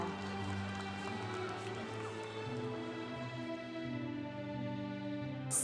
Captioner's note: congregation applauding